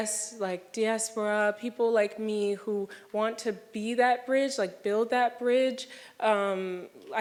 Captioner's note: none